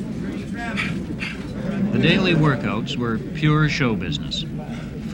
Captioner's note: clapping; gasps of exertion